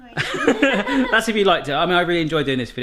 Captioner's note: laughs